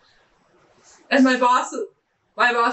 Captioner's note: laughing